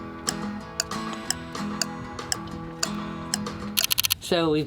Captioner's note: clock ticking